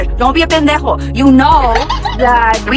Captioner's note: everyone laughs